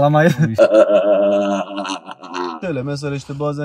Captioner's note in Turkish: kahkaha